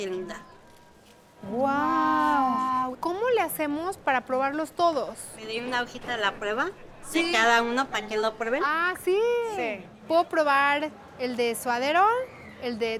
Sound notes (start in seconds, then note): 3.0 speaking Spanish